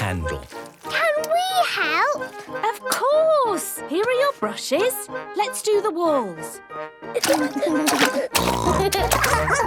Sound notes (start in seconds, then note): 6.2 barking; 6.2 snorting; 7.2 giggling